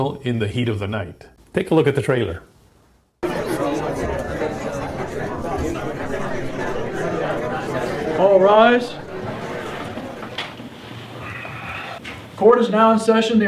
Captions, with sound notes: in the "Heat of the Night." Take a look at the trailer. (court attendees chattering loudly) - All rise. Court is now in session.